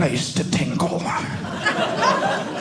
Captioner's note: audience laughing